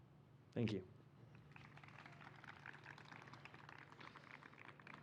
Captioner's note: applause